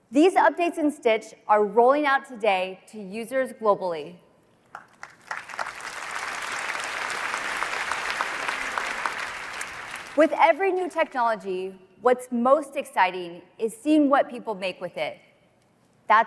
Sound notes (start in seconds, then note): 4.7 applause